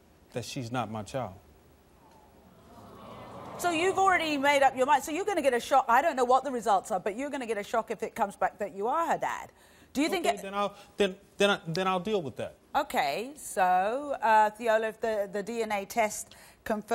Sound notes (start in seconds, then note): 2.0 audience sighs